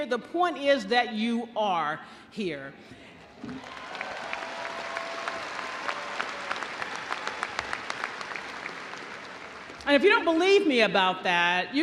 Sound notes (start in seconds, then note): 3.5 audience cheering; 3.5 audience applauding